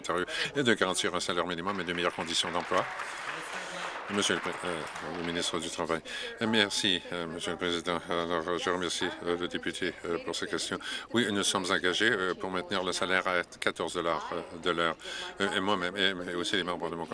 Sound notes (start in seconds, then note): 5.1 applause